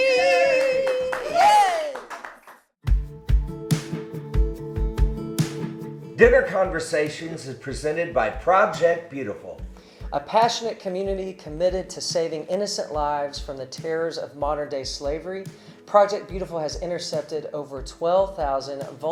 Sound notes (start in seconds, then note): 0.2 clapping; 3.8 calm music